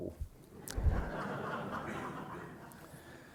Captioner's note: laughter